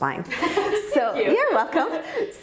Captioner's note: laughing